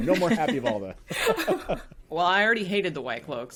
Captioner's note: all laughing